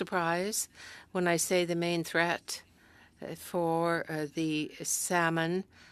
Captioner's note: speaking French